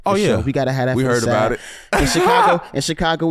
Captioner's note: laughs